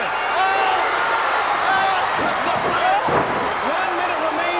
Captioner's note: Ric screams